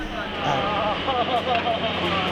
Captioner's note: laughs